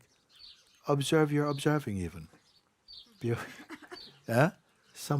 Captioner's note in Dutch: gelach